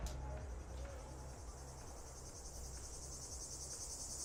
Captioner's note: insects chirping